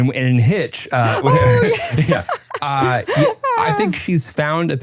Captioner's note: laughing